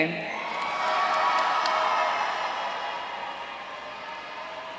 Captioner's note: audience cheering